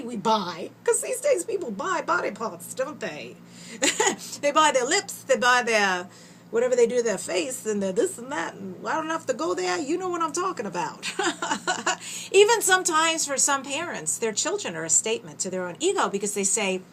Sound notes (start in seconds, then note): 11.0 laughter